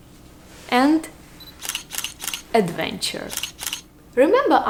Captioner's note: camera clicking